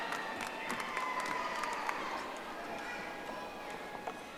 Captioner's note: audience applauding